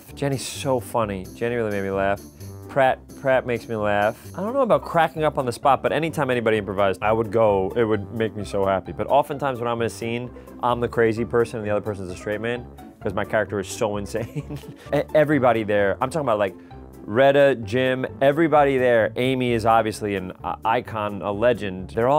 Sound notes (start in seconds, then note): 14.2 laughing